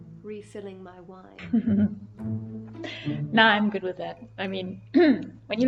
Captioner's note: chuckles; clears throat